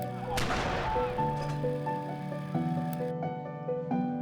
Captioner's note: canon shot fired